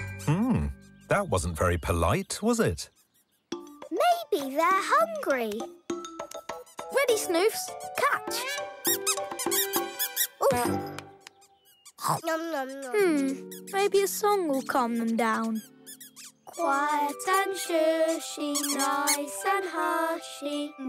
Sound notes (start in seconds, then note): 9.5 squeaking; 11.9 chewing